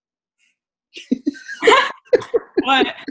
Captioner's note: laughs